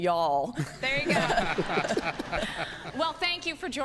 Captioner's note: laughing